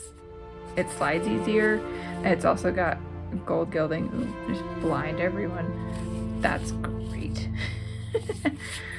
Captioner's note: laugh